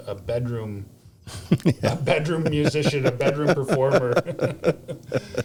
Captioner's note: laughs